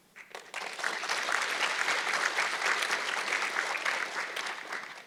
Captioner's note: audience clapping